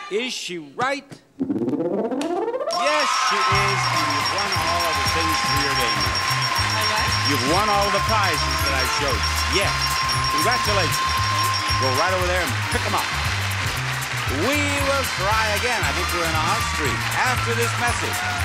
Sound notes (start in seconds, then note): 1.5 machine beeps; 2.5 counter beeps; 3.8 audience cheers and applauds; 9.3 counter beeps; 11.4 counter beeps